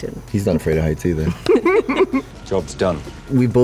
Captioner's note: laughter